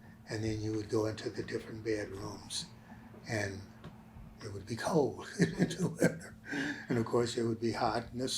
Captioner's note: laughs